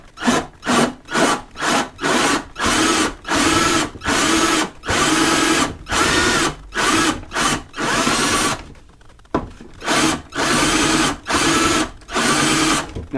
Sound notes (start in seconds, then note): 1.0 drilling